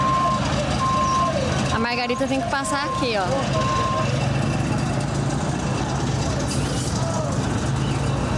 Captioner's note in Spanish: Ruido de camiones